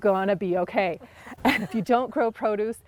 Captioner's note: laughing